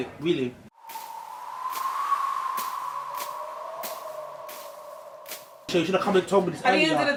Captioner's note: tumbleweed sound